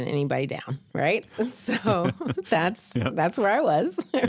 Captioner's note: laughter